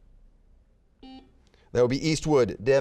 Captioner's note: buzzer beeping